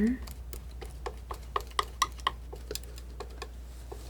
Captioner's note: scratching